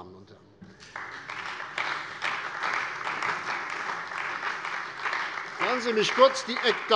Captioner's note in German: Beifall bei der CDU und dem BÜNDNIS 90/DIE GRÜNEN